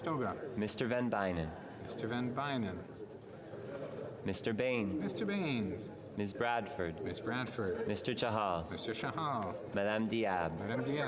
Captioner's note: calling of recorded vote